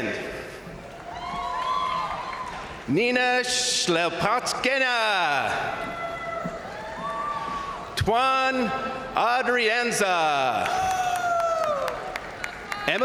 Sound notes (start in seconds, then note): 0.9 crowd cheering; 1.0 crowd applauding; 5.1 crowd cheering; 5.7 crowd applauding; 10.1 crowd cheering; 10.4 crowd applauding